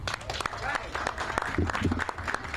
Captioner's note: applause